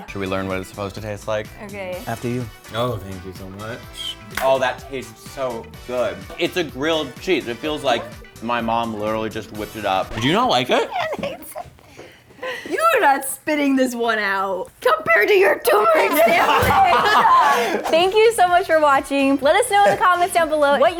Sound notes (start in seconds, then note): 10.0 record scratch; 16.0 laughter